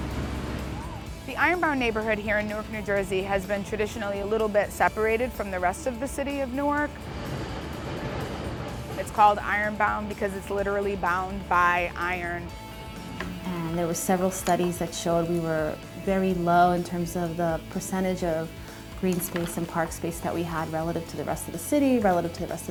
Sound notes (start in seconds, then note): 7.0 train